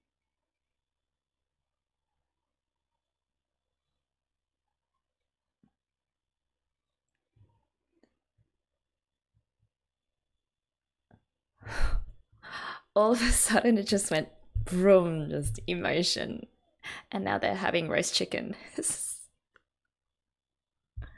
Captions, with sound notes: [exhales breath] All of a sudden, it just went 'Vroom!' Just emotion. And now they're having roast chicken [laughs].